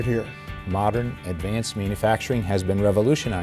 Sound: voiceover

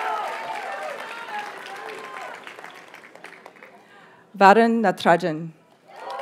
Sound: audience cheers and applauds; graduates chant

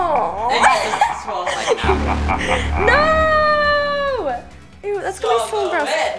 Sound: evil laughing; laughs

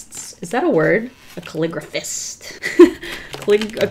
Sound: laughs

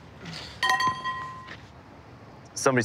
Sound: pipe clanks

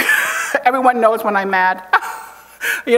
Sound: chuckles

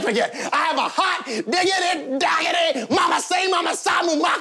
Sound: yelling gibberish

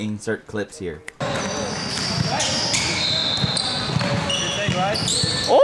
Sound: shoe squeaks

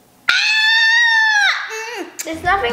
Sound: shouts

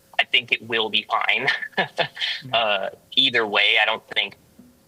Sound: laughter

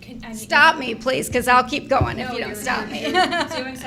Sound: laughs

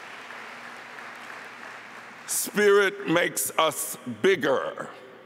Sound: applause

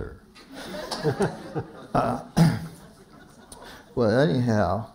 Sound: laughter

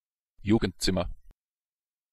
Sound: fast Pronunciation

